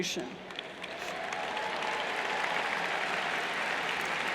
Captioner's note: cheers and applauds